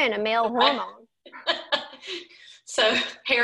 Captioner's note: laughing